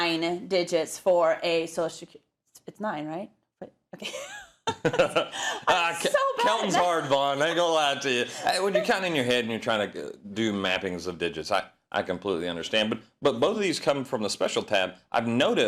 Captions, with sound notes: three, nine digits for a Social Security. It's nine, right? Okay. [LAUGH] -[LAUGH] -That's so bad. -Counting is hard, Bonn. I ain't gonna lie to you. When you count in your head and you're trying to do mappings of digits, I completely understand, but both of these come from a special tab.